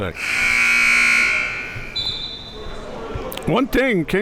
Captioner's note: buzzer buzzing